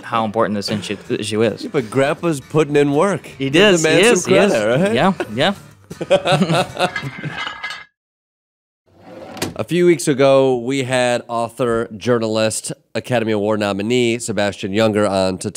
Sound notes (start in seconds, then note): 0.9 steady instrumental music; 5.9 laughing; 6.8 metal clanking